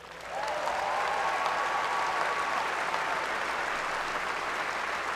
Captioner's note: applause